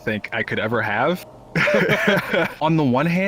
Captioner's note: laughter